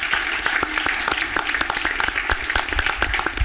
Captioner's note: applause